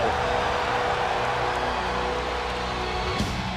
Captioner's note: crowd cheering